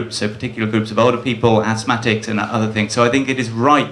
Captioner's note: none